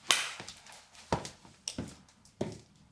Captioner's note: none